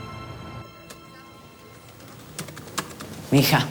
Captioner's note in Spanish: Tecleos